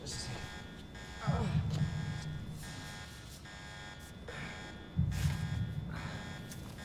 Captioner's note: alarm blaring; Daniel groaning